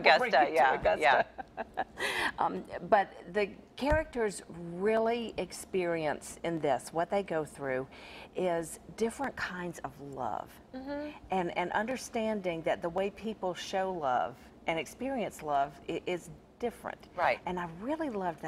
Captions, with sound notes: - will bring you to Augusta (laughs) - But the characters really experience in this, what they go through is different kinds of love, and understanding that the way people show love and experience love is different, and I really loved that